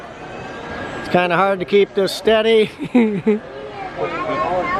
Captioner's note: chuckles